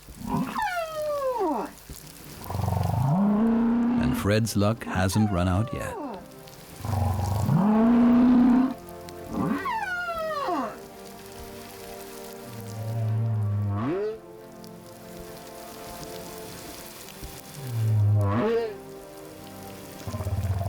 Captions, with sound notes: [grunting, squeaking] And Fred's luck hasn't run out yet. [grunting, squeaking] [moaning, honking]